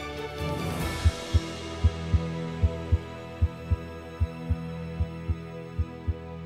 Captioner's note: uplifting music; heartbeat